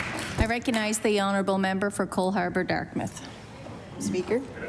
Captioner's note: applause